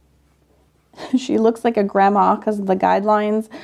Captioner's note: chuckles